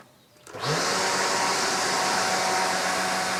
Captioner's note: engine whirs